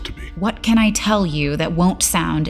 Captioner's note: defensive